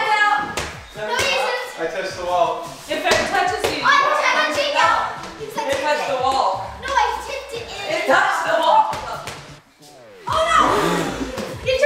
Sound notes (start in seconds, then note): 4.8 yelling